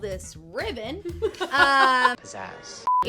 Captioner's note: laughing